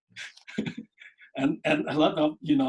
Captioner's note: laughs